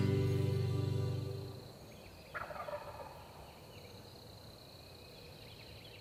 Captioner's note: crickets and birds chirping